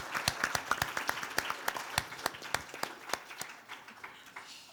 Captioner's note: audience applauding